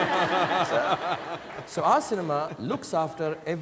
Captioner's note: audience laughing